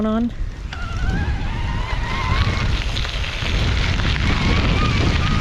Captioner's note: wind whooshing